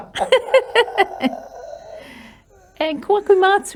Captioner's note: both laugh